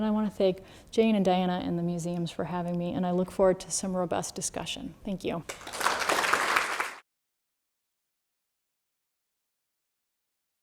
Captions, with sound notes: And I want to thank Jane, and Diana, and the museums for having me. And I look forward to some robust discussion. Thank you. [APPLAUSE]